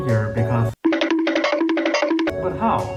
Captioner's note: goofy running noises